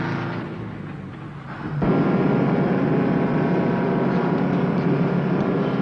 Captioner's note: truck engine whirring